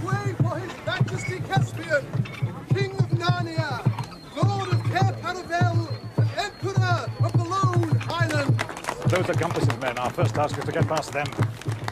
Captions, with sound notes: Make way for His Majesty Caspian, King of Narnia, Lord of Cair Paravel, - and Emperor of the Lone Islands! - (Applause) Those are Gumpas's men. Our first task is to get past them.